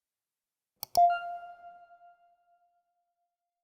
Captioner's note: mouse clicking